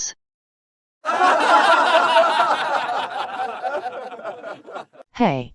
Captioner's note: laugh track